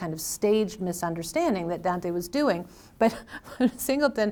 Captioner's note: laughs